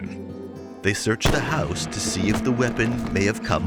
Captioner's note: gun bang